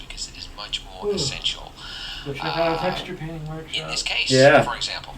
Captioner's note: speaking live